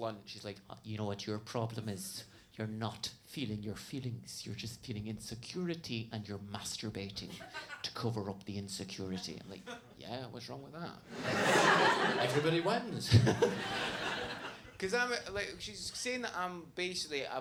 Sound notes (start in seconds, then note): 11.1 audience laughs; 13.8 laughs